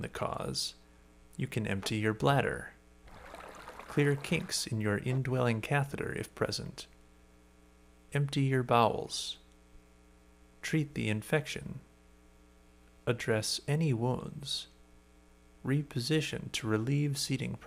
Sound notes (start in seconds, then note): 3.0 urine flowing